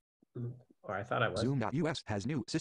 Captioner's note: voiceover